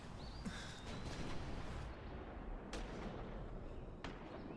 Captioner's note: guns firing